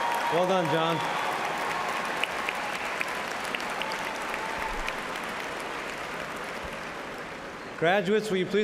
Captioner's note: cheers and applause